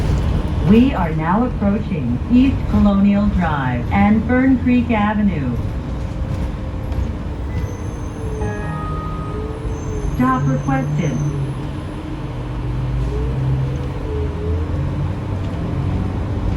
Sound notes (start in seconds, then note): 0.7 bus Automated Announcement